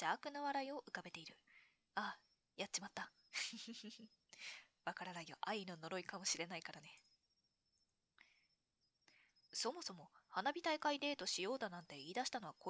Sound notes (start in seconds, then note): 3.4 laughs